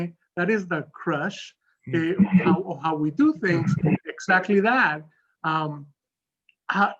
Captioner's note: laughs